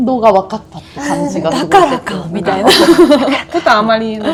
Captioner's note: laughs